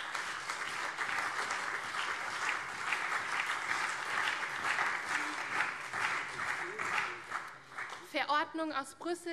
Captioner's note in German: Beifall CDU und SPD